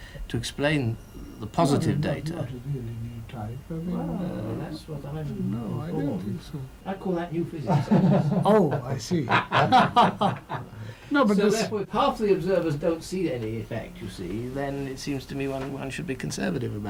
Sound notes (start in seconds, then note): 9.0 laughter